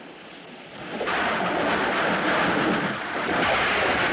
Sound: thunder Rumbling

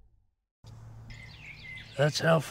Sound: birds chirping

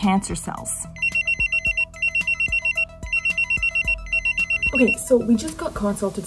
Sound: phone ringing

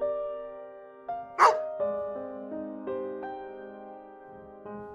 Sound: bark

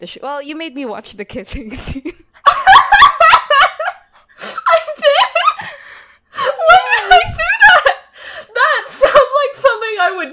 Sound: laugh; laughing

